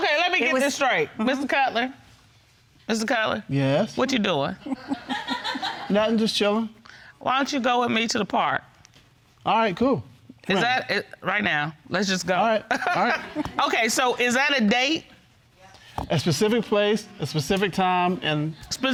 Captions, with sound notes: Okay, let me get this straight. Mr. Cutler, Mr. Cutler. Yes? What are you doing? (AUDIENCE LAUGHING) Nothing. Just chilling. Why don't you go with me to the park? All right. Cool. Is that... Right now. Let's just go. All right. All right. Okay, so is that a date? A specific place, a specific time, and...